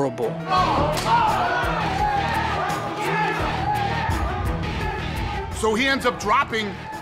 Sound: cheering

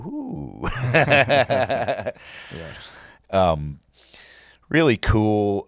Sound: laughing

